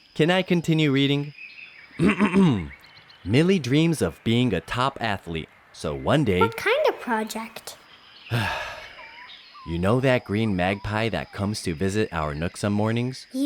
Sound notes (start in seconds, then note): 2.0 clears throat; 8.3 sighs